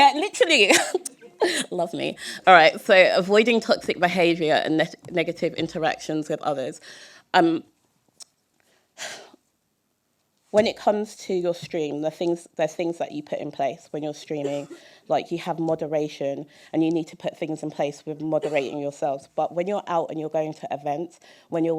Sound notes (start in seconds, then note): 0.8 chuckle; 9.1 sigh